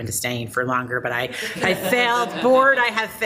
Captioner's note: people laughing